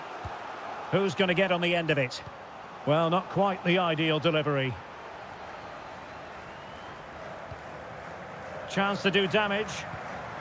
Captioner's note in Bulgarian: аплодисменти